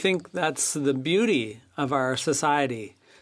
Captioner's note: speaking French